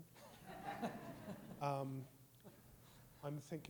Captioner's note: all laughing